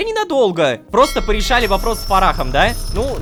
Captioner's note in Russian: Звук корабельного колокола